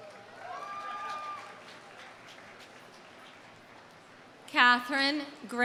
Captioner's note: audience applauding; audience cheering